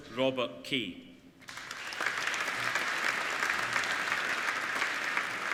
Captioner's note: applauding